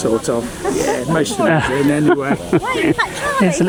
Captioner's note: laughter